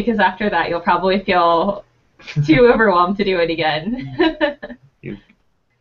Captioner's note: laughing